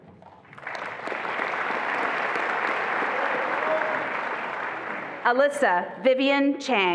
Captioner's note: attendees applauding and cheering